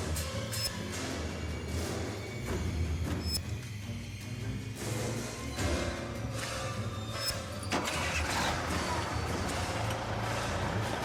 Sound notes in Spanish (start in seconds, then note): 7.8 sonido del motor